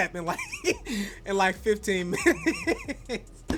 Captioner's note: laughs